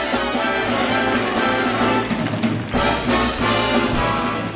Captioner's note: audience applauding